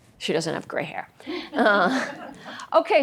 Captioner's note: laughter